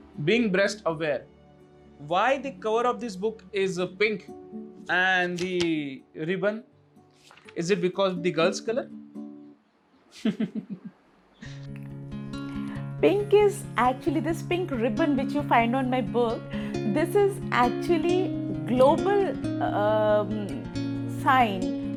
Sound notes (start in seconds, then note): 10.1 laughs